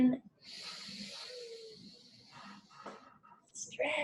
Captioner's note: inhales